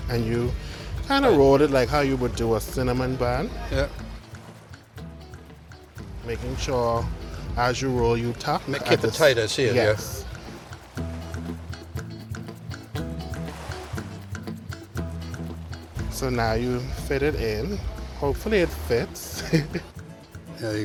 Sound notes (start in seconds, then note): 11.5 upbeat music; 11.5 waves crashing; 19.2 chuckles